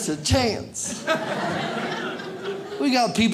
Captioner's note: audience laughs